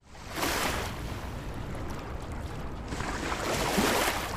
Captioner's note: water crashing gently